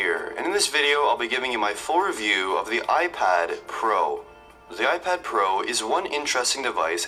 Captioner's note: video audio playing. Sounds decent, but not that loud overall